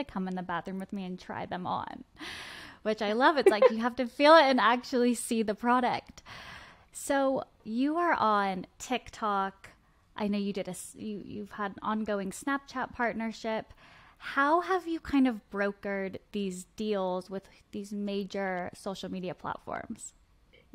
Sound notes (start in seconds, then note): 3.4 laughs